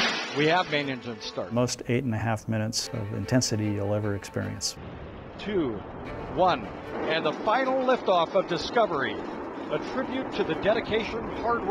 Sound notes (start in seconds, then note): 1.1 ignition noise; 5.9 rocket engines roaring